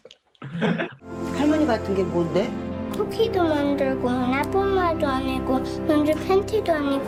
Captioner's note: dramatic music; speaking foreign language